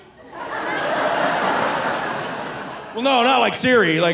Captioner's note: audience laughing